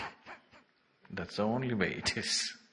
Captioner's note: laughs